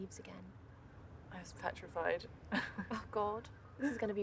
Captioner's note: laughing